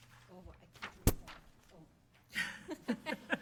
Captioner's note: speaking softly; laughing